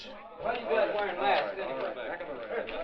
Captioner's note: all chattering